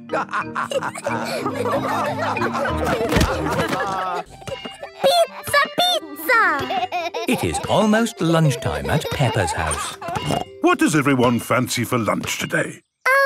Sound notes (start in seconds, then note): 0.0 all laughing; 6.4 laughing